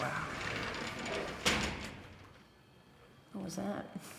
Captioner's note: clanking